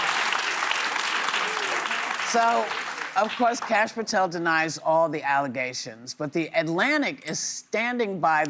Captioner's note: applause